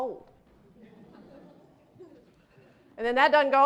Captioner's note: laughter